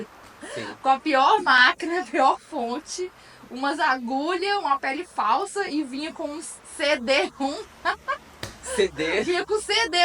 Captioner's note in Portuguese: risos; risos